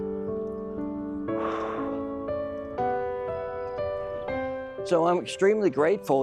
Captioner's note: exhales